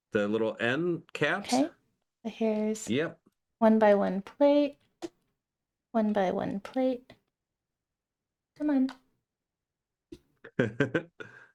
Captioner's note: laughing